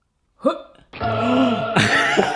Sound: gasps; angelic music

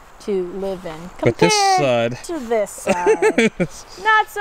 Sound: laughs

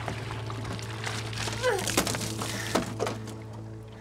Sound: sound of water

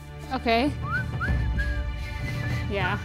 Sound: whistle

